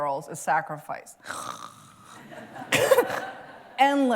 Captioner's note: snores